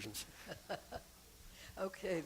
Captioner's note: laughter